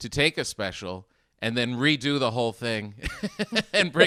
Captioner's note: laughing